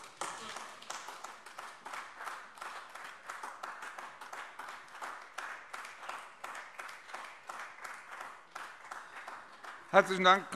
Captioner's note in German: Beifall AfD